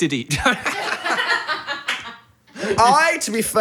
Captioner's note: group laughing